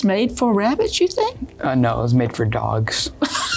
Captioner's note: laughter